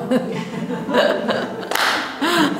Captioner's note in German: Lachen